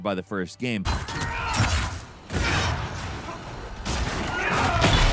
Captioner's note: people shouting